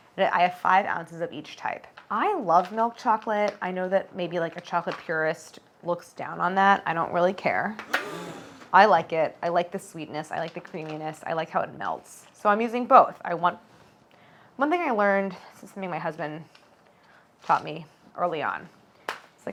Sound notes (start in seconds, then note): 7.8 audience gasping